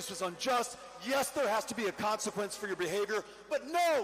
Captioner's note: none